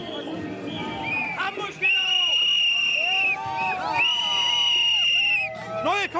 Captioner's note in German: jubel, pfeifen